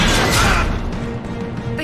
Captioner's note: Garrus screams